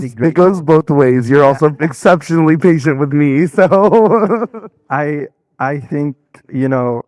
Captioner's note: laughing